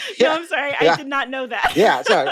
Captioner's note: laughter